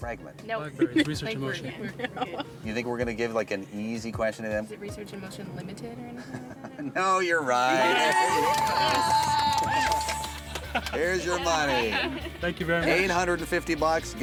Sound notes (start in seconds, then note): 7.8 bells